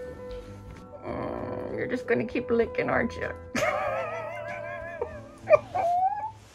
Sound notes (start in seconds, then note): 3.5 laughs